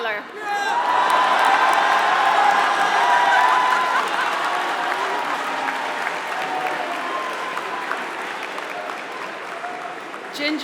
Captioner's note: applause